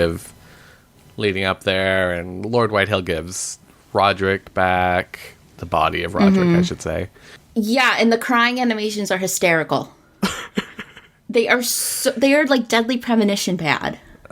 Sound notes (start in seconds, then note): 10.2 laughs